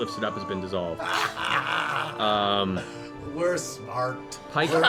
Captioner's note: laughs